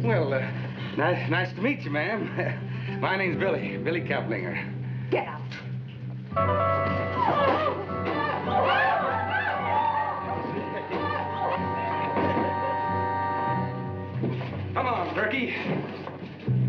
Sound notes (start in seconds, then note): 6.8 Kit shrieking